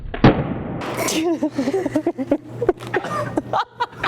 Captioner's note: laughing